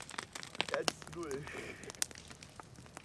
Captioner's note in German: Lacht